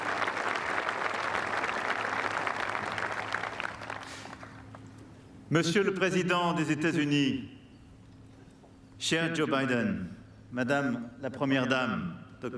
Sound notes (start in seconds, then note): 0.0 applause; 0.7 speaking french